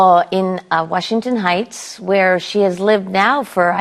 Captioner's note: in usual voice